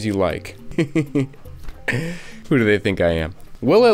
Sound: laughs

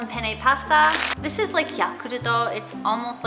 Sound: foreign language

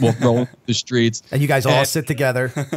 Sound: chuckle

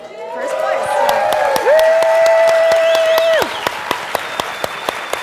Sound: applause

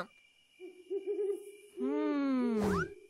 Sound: owl hoots

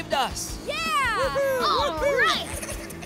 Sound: cheering

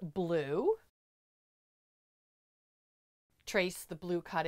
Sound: no Sound Present

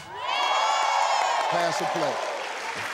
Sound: applause

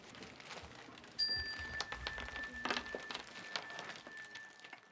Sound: chime

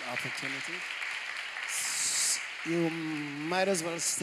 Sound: applause

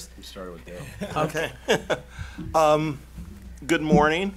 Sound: laughing

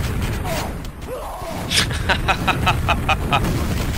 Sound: laughter

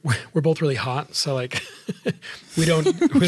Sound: laughing

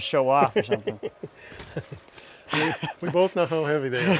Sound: laughs

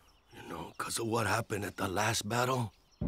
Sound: sighs

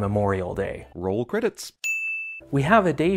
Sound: ding

